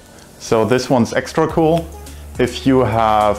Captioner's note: pointer clicking